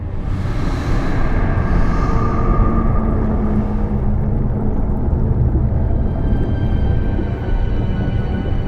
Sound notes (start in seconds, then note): 0.0 ominous music; 0.6 subs humming